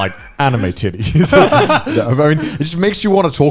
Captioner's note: all laughing